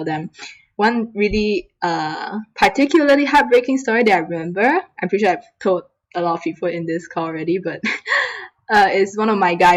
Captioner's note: laughs